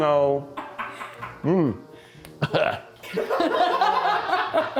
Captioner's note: groans; crew laughs